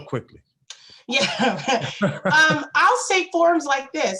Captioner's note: both laughing